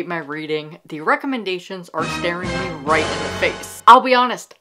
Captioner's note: dun, dun, dun sound effect